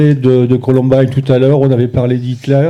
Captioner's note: speaking in French